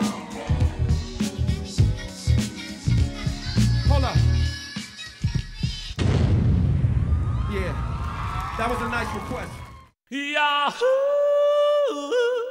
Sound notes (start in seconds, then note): 0.0 audience screaming and cheering; 5.9 bomb exploding from track; 6.9 audience cheering